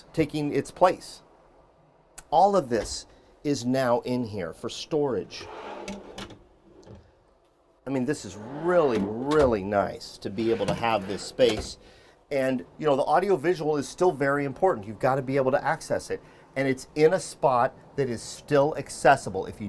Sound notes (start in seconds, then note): 5.5 drawer latch clicks; 5.5 drawer scrapes